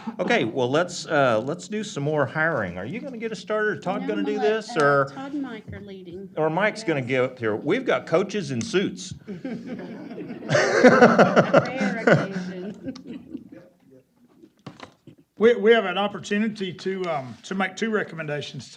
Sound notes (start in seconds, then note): 9.2 laughter